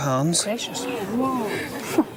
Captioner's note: crowd gasps